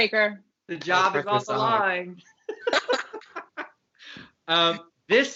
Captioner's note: laughter